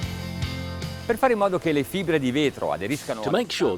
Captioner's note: speaking foreign language